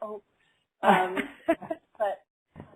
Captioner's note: laughter